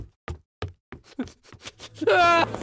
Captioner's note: sobbing